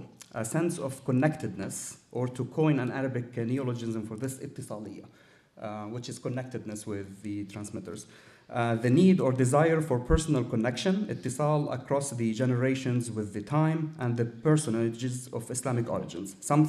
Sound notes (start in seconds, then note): 4.6 speaking arabic